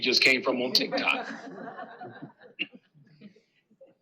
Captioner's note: laughter